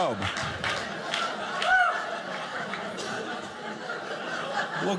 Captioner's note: audience laughing; audience cheering